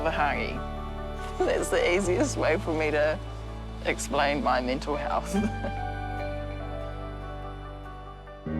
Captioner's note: chuckles